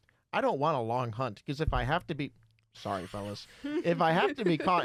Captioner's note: bumps his microphone